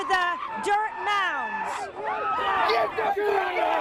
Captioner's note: loud angry screaming